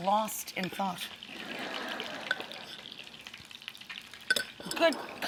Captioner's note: audience laughs